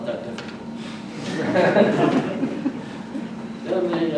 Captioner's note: audience laughs